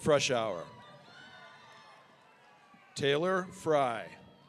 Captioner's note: audience cheering